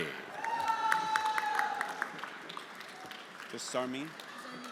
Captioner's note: everyone applauding